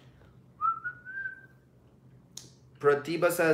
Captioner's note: whistling